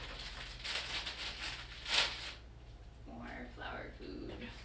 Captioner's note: crinkling